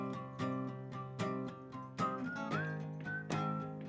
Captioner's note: melodic whistling